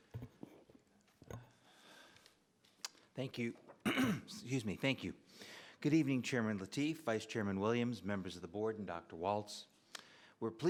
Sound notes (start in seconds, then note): 3.8 clears throat